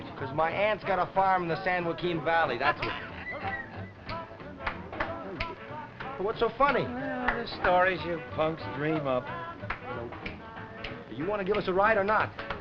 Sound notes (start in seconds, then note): 3.5 salesman laughing; 3.5 upbeat rock and roll music